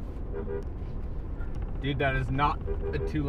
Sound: honks

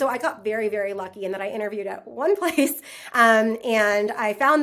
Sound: laughs

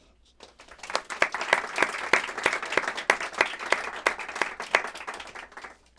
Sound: applause

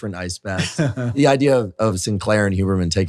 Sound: David chuckles

